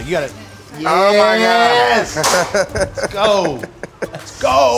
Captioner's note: laughing